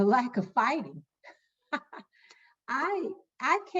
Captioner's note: laughing